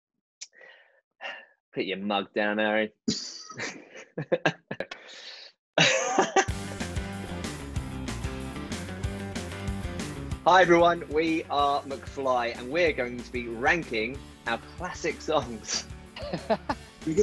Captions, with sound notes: (sighing) - Put your mug down, Harry. (laughing) (upbeat pop music) Hi everyone, we are McFly and we are going to be ranking our classic songs. (laughing)